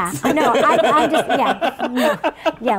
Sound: laughing

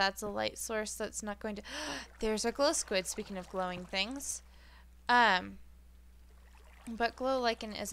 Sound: gasp

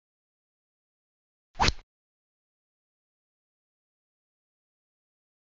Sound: rod sound

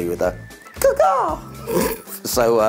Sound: laughs

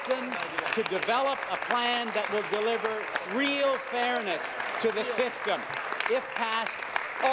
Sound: applause

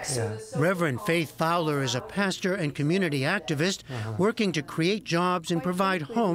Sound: voice-over

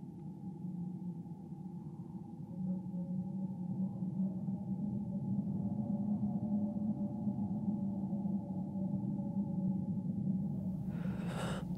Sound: low rumbling

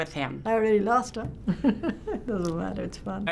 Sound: laughing

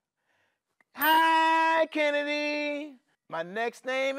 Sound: bell chimes

